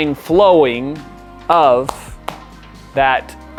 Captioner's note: hands clapping